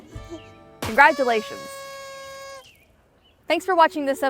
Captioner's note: party horn blaring